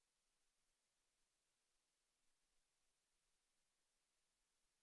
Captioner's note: none